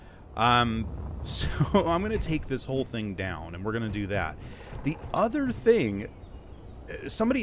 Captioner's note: chuckles